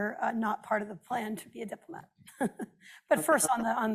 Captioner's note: laughs